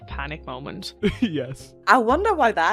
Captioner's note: laughs